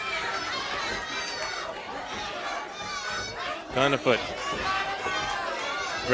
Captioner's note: crowd chatter